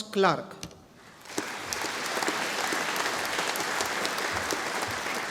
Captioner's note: audience applauding